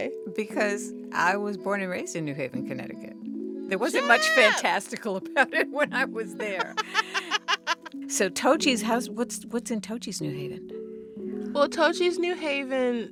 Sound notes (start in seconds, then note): 6.4 laughter